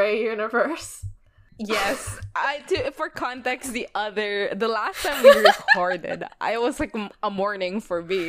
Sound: laughs

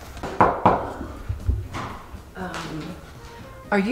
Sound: knocking

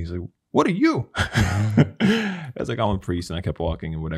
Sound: chuckles

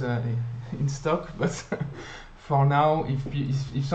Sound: laughs

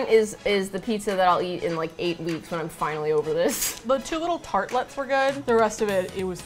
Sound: laughs

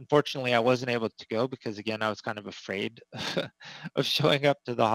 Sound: laughs

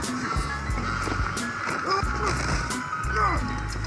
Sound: effort, fall and scream in pain

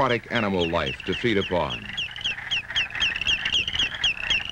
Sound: bird sounds

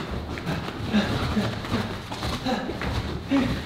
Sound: panting

